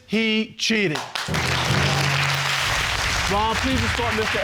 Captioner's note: audience applauding